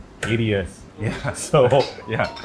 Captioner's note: laughs; chuckles